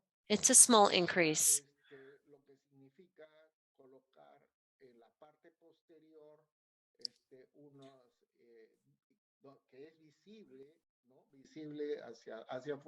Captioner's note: speaking spanish